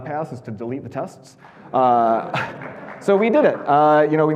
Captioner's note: audience laughing and clapping